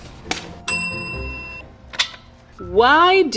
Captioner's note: bell dings